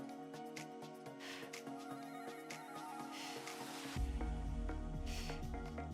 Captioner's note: upbeat lively music; exhaling deeply